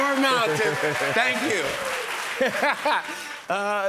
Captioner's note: laughs